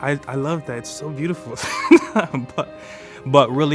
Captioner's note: laughing